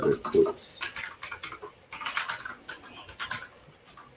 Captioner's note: keyboard clacks